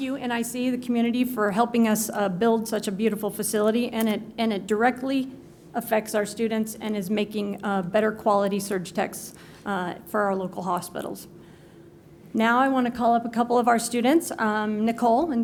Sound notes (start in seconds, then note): none